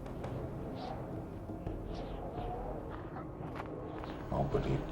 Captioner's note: wind blowing